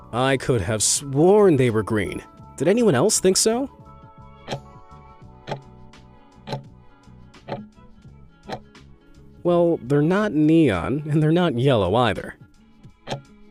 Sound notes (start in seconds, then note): 4.6 timer ticking; 13.0 timer ticking